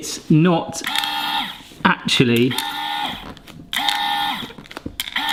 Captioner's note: machine whirring